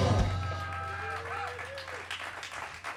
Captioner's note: cheers and applause